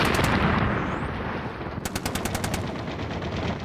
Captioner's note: gun fire